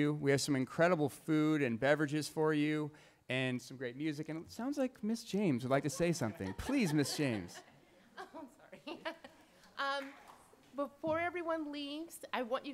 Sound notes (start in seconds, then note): 9.5 laughing